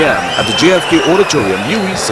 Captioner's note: wild applause and cheering for 22 seconds